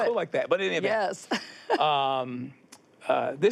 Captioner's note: chuckles